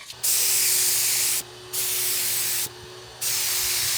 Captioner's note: nozzle hissing